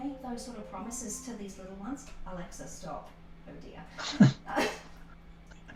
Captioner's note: laughter